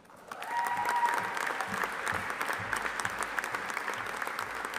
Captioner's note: audience applauding